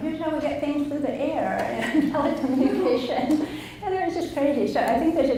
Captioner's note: laughs